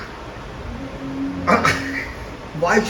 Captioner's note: hahaha